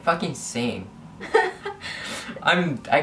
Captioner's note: laughs